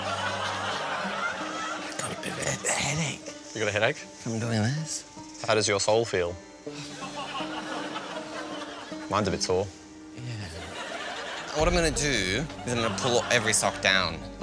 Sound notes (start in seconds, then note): 6.6 sighs